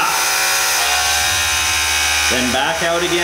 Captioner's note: mechanical whirring